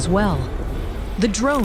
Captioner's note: distant battle sounds & approaching med-lifters